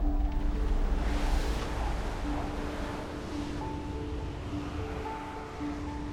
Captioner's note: water rushing